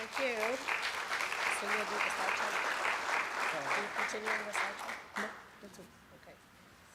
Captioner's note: applause